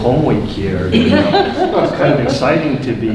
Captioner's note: woman laughing